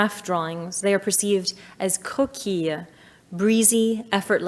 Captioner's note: speaking in French